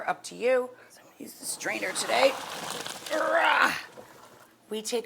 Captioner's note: roars